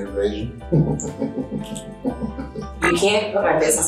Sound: laughing

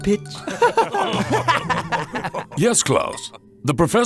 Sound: laughter

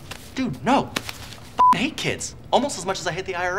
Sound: beep

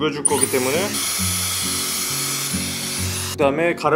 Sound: hair dryer running

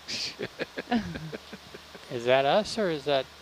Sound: laughing

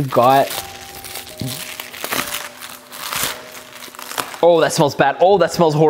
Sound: package rustles

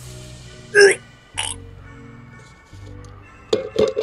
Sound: gagging & retching sounds

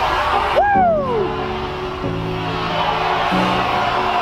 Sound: cheers

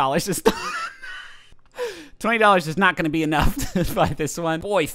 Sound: laughs

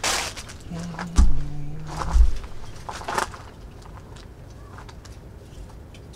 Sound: humming

